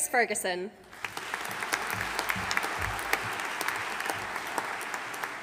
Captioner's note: audience applauding